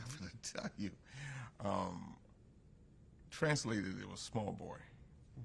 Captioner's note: laughs